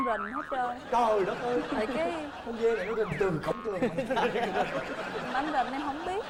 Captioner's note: laughing